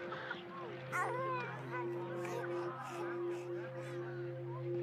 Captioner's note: baby cackling